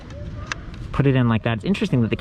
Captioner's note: click